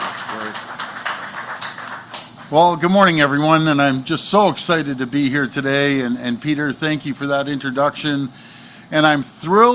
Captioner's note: applause